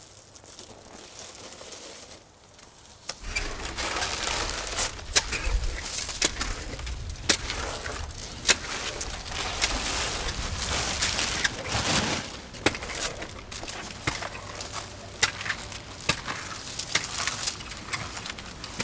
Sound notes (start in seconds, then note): 3.5 objects clattering